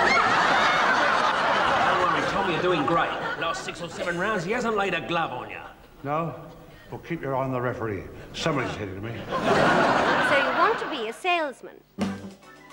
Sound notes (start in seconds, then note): 0.0 audience laughs; 9.0 audience laughs